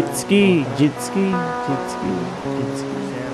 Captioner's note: echo